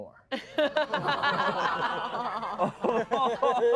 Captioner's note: everyone laughs